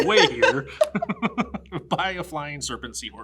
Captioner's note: laughs